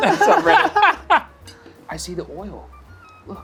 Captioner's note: group laughs